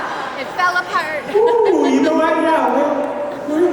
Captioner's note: laugher